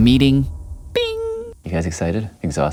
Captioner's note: bing!